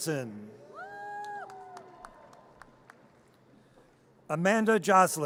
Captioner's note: audience cheers